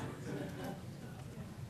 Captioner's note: laughter